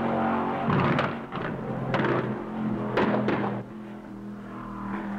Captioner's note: motor knocking